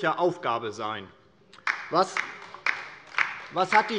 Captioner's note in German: Beifall DIE LINKE